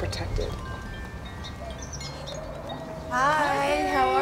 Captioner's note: wind chime sounds